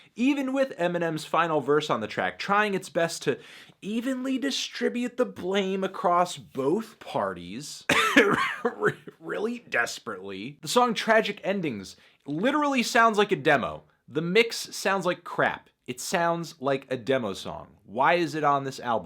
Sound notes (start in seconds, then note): 7.8 cough cough